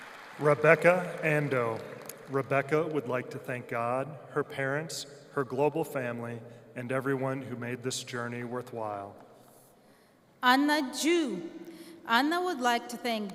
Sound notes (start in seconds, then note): 0.0 applause